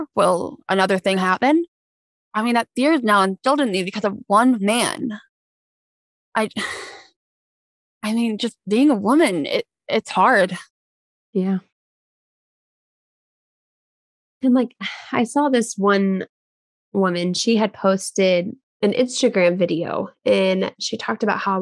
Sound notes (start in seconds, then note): 6.7 sighs